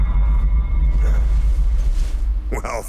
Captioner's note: grunts